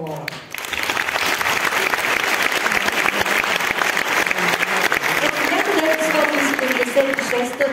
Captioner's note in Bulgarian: аплодисменти